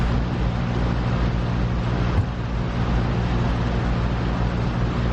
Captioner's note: engine hums peacefully